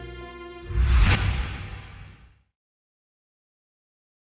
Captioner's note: dramatic swooshing